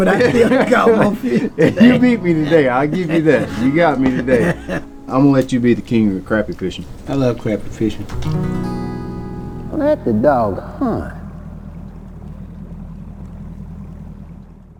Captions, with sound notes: but you only caught one fish. - You beat me today, I'll give you that. You got me today. I'm going to let you be the king of the crappie fishing. - I love crappie fishing. (acoustic guitar strums) Let the dog hunt. (boat rumbling)